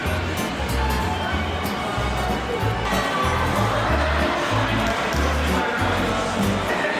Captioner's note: laughs